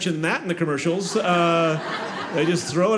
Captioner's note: audience laughing